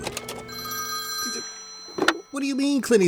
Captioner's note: phone ringing